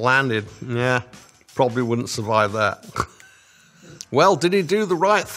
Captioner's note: laughs